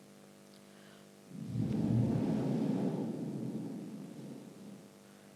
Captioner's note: shree mataji blows into the microphone